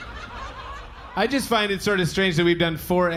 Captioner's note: audience laughing